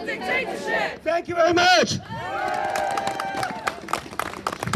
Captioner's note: crowd cheers & claps